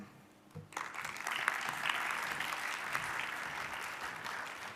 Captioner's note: audience applauding